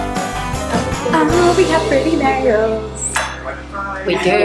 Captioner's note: sing-song voice